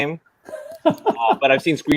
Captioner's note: laughing